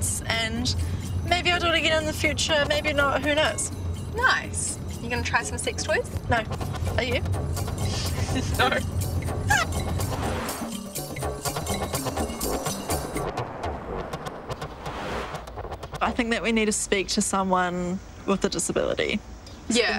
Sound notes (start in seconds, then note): 8.0 giggles; 9.8 upbeat exotic music